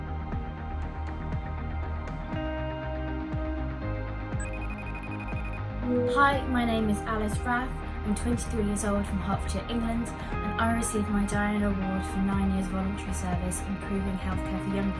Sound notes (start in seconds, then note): 4.4 phone rings